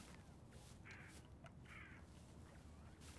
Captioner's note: squawking